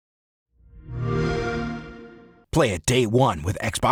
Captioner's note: xbox sound